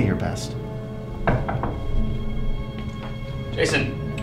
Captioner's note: knocking on door